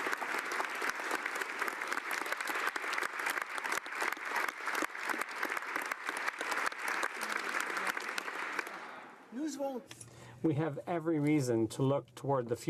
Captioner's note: applause